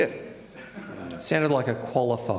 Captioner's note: audience laughs